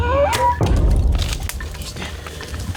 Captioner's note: bowstring thuds